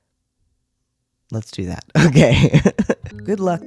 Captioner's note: laugh